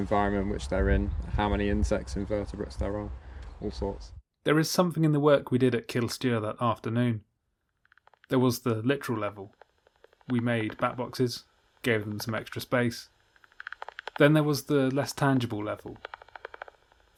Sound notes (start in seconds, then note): 7.4 clicking bat calls in background